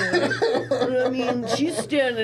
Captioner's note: laughing